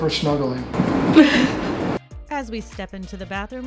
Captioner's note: giggles